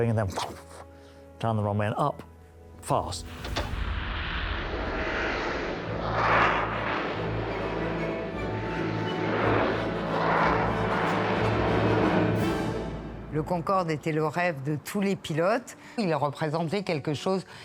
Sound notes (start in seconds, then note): 3.5 aeroplane whooshing; 6.1 bright triumphant music; 13.2 speaking French